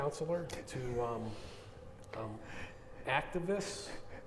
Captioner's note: chuckling